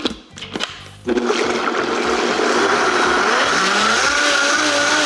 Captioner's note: blender whirring